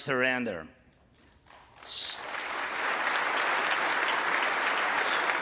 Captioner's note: applause